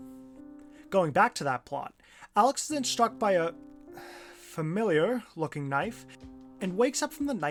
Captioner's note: sigh